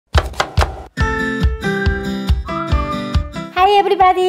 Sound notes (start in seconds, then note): 0.1 chopping; 1.8 upbeat music